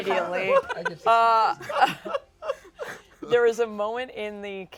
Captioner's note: laughter